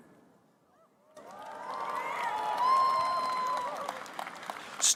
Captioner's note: applause